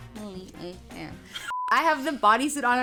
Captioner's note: beep